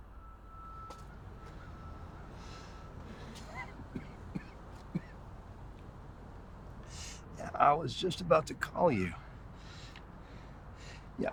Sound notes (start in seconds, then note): 3.0 David coughing